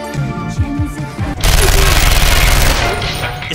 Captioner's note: machine gun fire